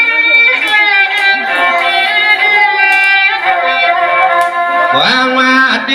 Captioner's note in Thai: ปรบมือ